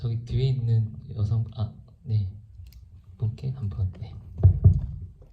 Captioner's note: speaks in foreign language